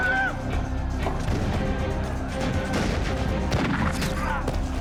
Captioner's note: groaning